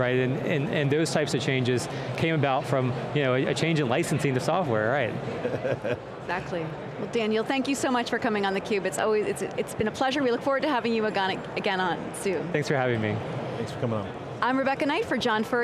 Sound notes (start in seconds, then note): 5.2 laughs